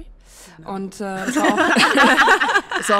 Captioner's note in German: Gelächter